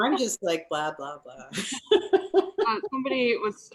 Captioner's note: laughs